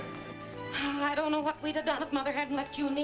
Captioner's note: sighing